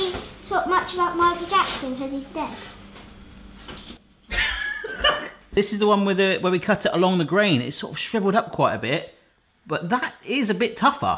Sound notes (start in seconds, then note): 4.3 laughs